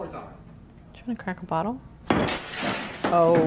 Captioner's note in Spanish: el vidrio se rompe